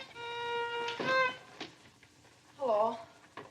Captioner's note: door shuts